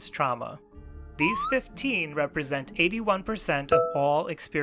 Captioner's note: meter filling